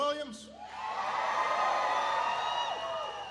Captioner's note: applause